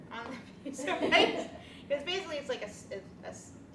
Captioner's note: laughs